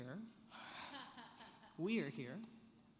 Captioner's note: laughing